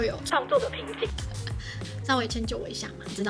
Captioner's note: laugh